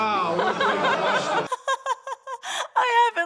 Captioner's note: laughter